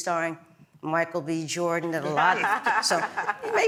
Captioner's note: laugh